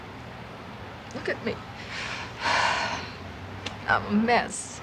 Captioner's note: gasps